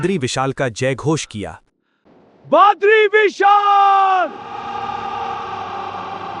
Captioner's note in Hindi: चीखने की आवाज़